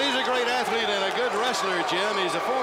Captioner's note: crowd cheering